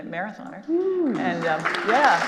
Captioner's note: audience applauding